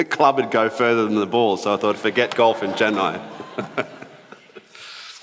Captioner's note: both laugh